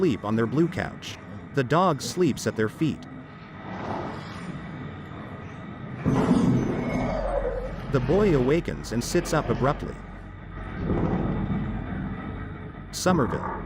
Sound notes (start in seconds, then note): 5.8 ominous alien noise